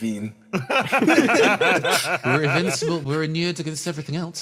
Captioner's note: laughs